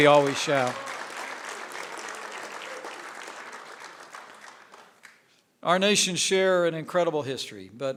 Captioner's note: applause